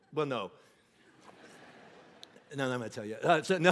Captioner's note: congregation laughing